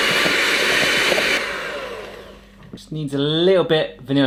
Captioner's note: mixer starts